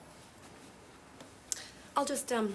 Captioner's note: footsteps tapping